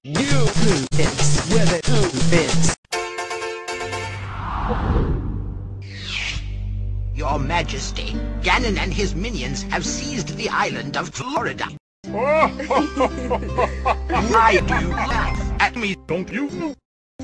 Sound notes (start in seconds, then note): 4.1 whoosh; 12.1 King and Zelda laugh